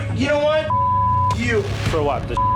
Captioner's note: beep